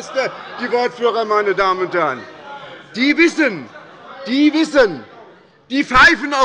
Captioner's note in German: Zurufe von der SPD – Gegenrufe von der CDU